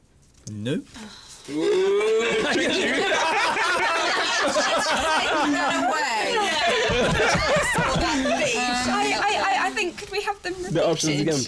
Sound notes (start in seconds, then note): 2.1 laughter; 8.5 laughing